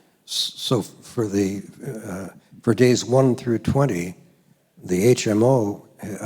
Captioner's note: voiceover